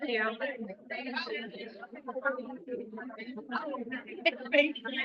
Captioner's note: audience members chattering